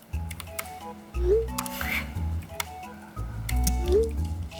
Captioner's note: laughs